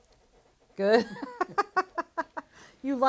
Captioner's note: laughter